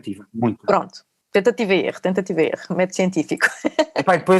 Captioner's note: laughs